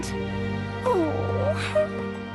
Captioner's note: whimper